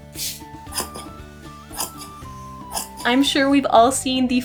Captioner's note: clear misting sound effects; snip, snip, snip